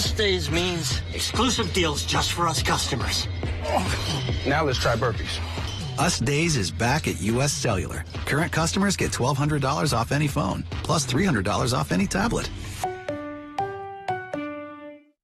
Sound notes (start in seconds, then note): 3.6 sigh